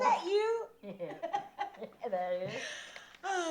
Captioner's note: laughs; both chuckling